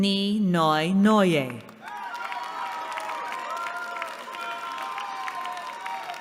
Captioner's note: cheering